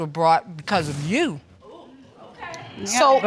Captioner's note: audience gasps